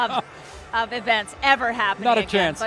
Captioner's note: Paikin laughing